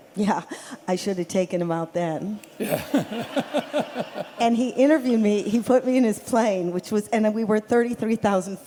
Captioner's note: laughter